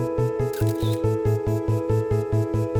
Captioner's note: camera clicking; uplifting music